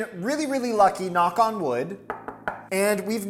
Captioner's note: fist knocks